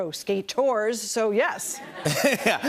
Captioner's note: laughter